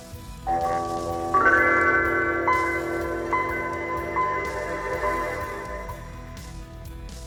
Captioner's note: startup Chime